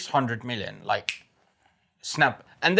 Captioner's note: snaps fingers